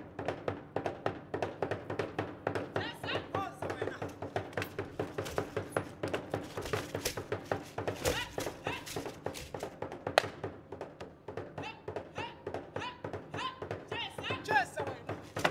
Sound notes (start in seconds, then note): 1.6 shouting and drum beating; 6.7 drum beating and beads rattling; 11.4 woman shouting and drum beating; 14.2 drum beating and beads rattling